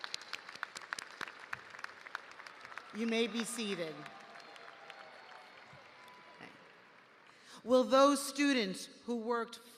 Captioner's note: cheers and applause